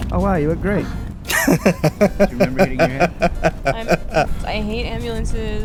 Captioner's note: chuckling